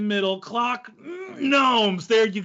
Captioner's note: groans